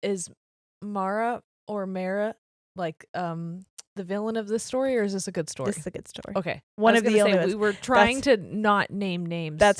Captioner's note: none